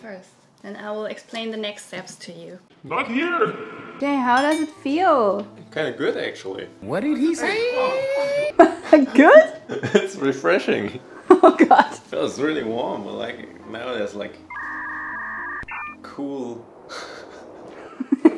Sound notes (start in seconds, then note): 14.4 digital beeping; 17.0 laughing; 17.0 laughs